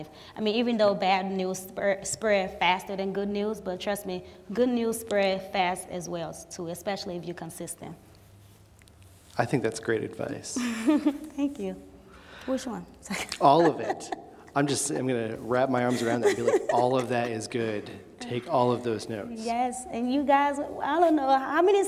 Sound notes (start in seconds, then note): 13.1 laughs